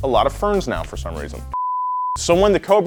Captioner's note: beeping